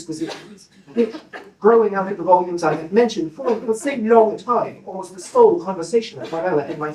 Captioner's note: coughing